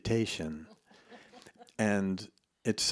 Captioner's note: laughs